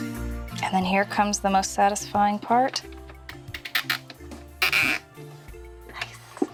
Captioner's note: ziiiiiip